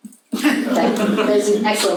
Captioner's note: audience laughs